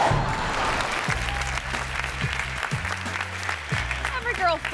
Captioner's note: audience applauding